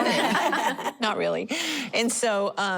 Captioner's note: laughter